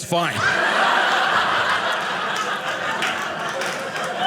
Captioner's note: audience laughing